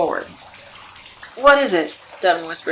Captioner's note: whispers over rushing water